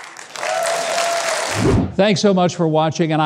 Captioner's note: audience cheers